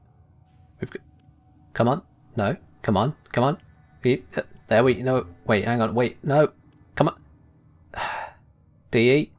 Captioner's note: sigh